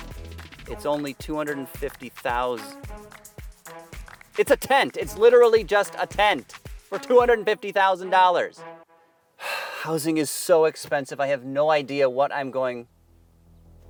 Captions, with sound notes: It's only $250,000. It's a tent. It's literally just a tent for $250,000. [sighs] Housing is so expensive. I have no idea what I'm going...